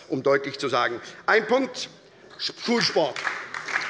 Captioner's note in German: Beifall bei der SPD